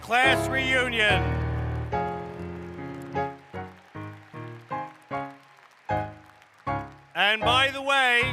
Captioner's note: applause